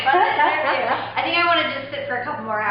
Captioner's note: laughing